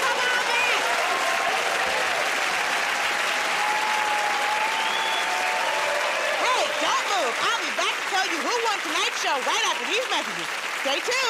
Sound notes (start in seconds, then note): 1.8 cheering and applause; 4.6 whistling